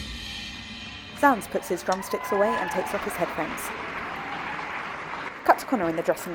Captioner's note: audience cheers